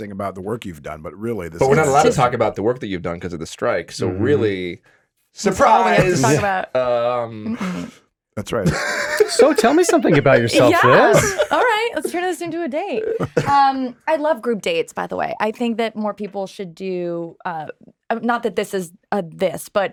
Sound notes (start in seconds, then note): 8.6 laughing